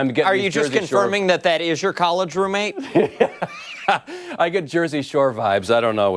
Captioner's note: laughter